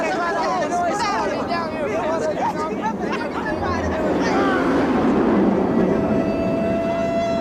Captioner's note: coaster whooshing; siren wailing